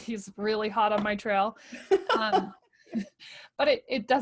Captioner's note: laughing